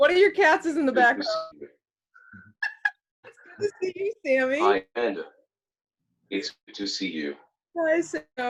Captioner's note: laughter